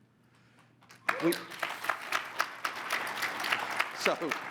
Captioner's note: audience applauding